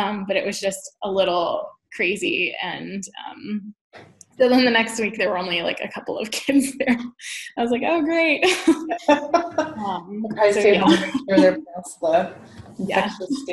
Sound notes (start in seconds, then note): 8.6 laughs